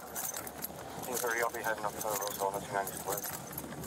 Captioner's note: radio chatter